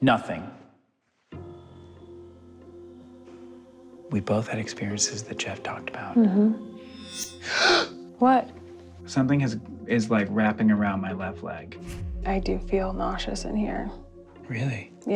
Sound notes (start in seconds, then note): 1.3 suspenseful music; 7.4 gasps